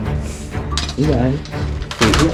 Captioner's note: wood cracks; quietly